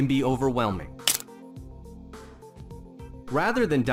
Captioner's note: pencil snapping